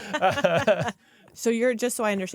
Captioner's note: laughter